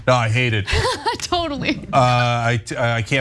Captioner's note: laugh